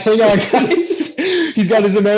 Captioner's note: laughter